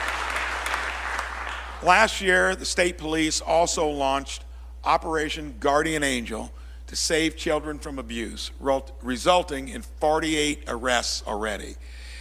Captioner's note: applause